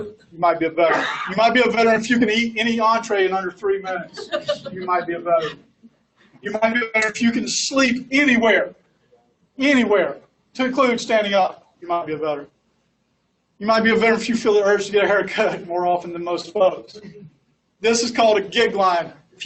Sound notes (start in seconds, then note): 3.9 laughs